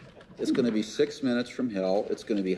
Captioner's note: crowd laughs